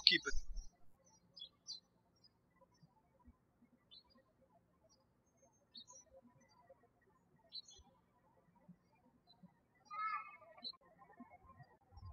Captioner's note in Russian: птички щебечут